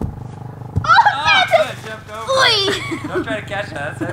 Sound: yelling

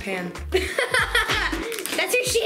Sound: laughing

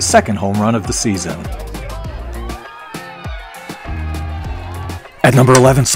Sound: mid-tempo instrumental music; crowd cheers

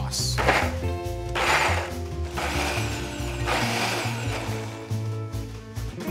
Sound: blender whirring

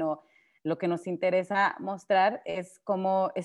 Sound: speaking Spanish

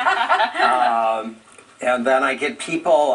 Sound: laughing

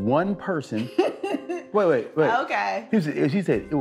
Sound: laughs

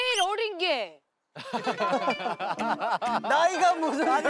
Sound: hahahahaha

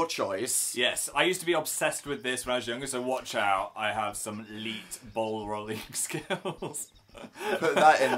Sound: laughs

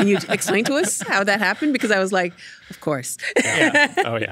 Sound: laughing

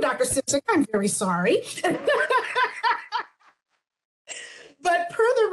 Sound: woman laughing

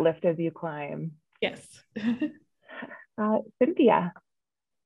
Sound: chuckles

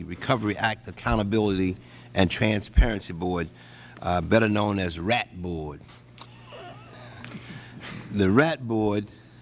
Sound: laughter

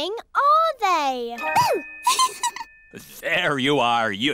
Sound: giggles

